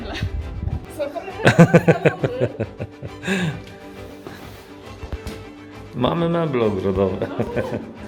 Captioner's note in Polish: śmiech